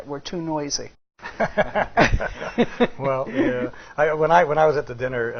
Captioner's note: all laughing